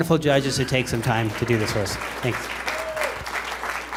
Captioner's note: applause